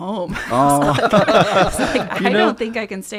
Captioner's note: laughs